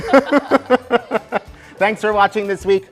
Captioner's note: laughter